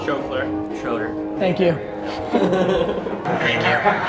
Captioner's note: laughs